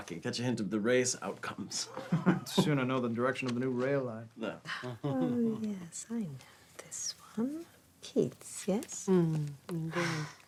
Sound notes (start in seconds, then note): 1.8 laughs; 4.7 Ewald laughs